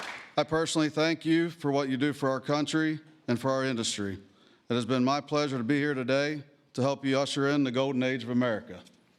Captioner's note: applause